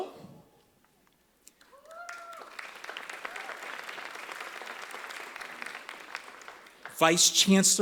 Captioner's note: applause